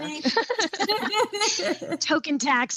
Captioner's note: chuckles; laughs